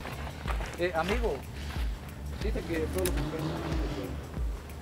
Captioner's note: foreign language